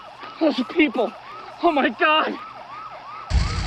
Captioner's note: siren wailing